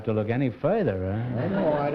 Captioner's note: laughter